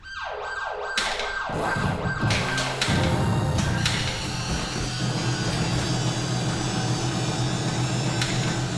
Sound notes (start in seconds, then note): 0.0 game siren sounds; 3.0 medley of game sounds